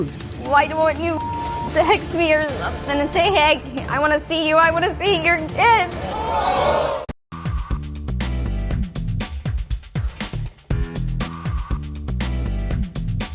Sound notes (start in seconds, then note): 0.8 beeps; 5.8 audience gasps